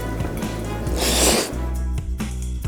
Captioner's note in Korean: 후룩